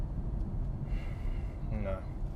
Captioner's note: Joseph sighing